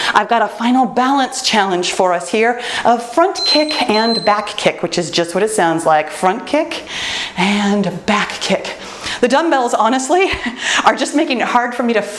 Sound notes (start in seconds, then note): 3.3 timer beeps